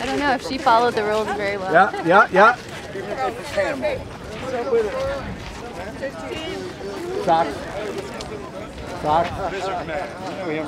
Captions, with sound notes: - I dunno if she followed the rules very well. - Yeah. (Background Chatter)